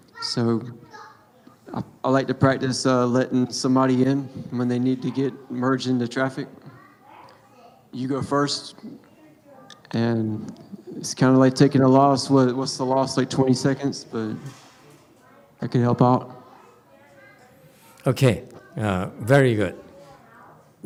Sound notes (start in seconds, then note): none